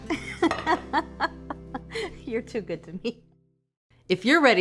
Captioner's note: laughs